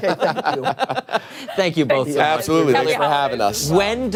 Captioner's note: laughter